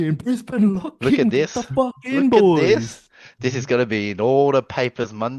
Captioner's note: laughs